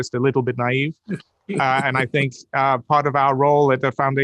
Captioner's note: Ian laughing